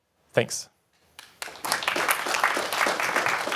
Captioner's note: applause